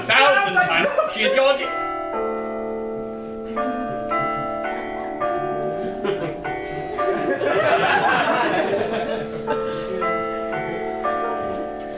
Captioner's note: Westminster chimes ring out